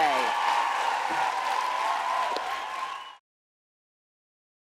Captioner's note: audience applauding